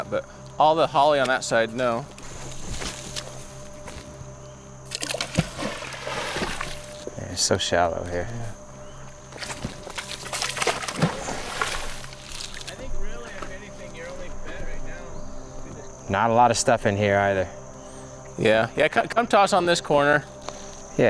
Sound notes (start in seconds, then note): 4.8 water splashing